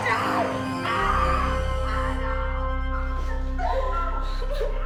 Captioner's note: all crying; dramatic music